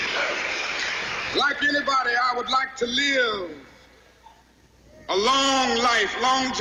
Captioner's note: cheering and applause